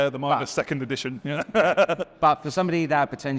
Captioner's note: laughs